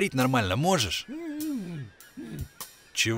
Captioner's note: mutters